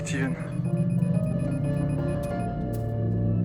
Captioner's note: counter beeping rapidly